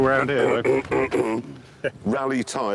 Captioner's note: jeremy clears his throat